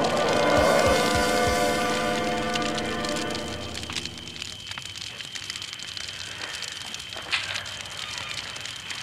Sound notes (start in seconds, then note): 0.0 drum hits; 2.1 music fades; 4.1 crackling fire